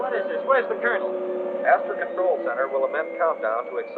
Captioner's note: man on PA